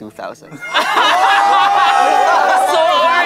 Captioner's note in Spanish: campistas riendo